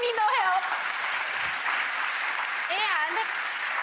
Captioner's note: crowd applause